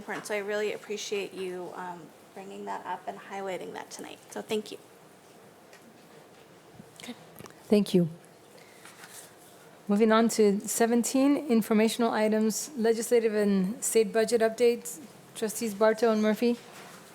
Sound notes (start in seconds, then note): none